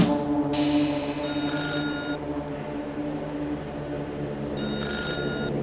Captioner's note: phone ringing